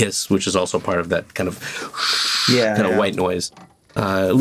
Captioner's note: makes whooshing sound